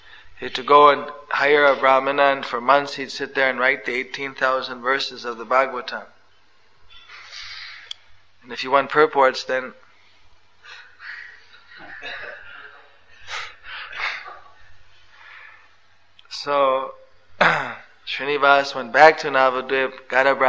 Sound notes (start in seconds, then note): 11.0 laughter